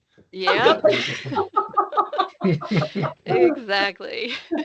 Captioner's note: laughing